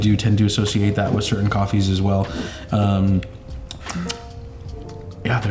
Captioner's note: tongue clicking